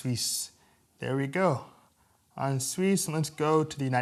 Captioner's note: non-English speech